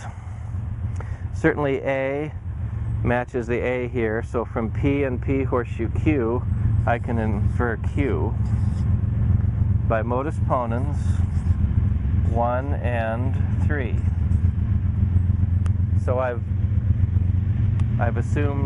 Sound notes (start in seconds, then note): 14.1 loud rumbling noise